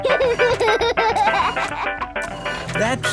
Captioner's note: giggles, snorts; giggling; music fades